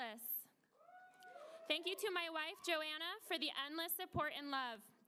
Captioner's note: applause